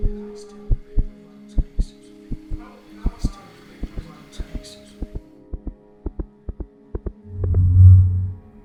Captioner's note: heartbeat, increasing in speed